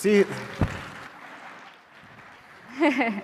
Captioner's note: applause; laughs